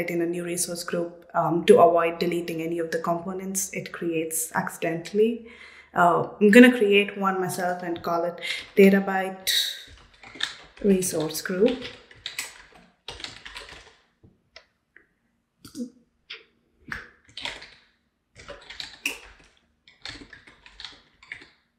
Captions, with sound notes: in a new resource group to avoid deleting any of the components it creates accidentally. I'm gonna create one myself and call it "Databyte Resource Group". (keyboard clicking)